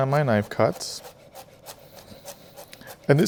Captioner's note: knife slicing